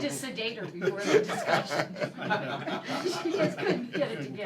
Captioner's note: laughter